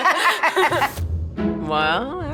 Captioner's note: laughter